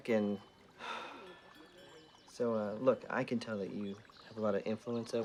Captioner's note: sighs